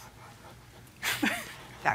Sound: chuckles

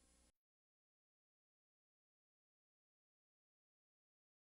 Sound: silence

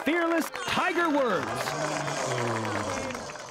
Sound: crowd cheering

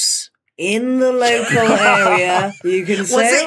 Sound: others laughing

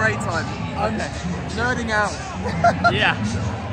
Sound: laughs

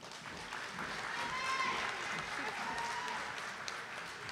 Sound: audience applauding

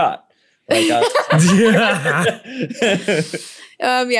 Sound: laughter

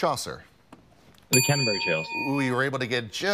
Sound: bell dings

